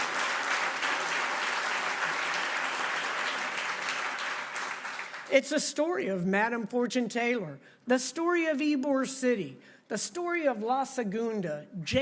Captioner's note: applause